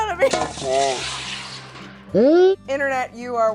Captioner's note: water splashing